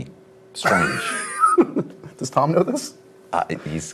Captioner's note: laughs